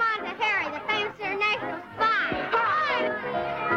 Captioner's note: children yelling